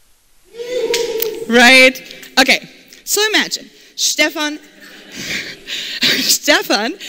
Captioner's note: laughter